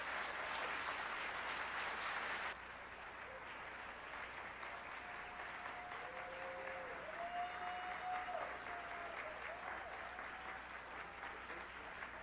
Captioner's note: applause